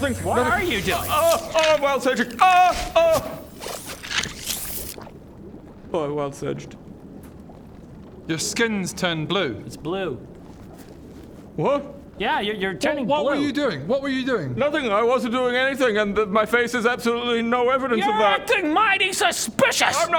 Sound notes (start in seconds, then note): 4.0 slurp